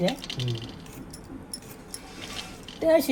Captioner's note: slicing